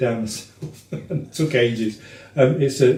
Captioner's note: laughs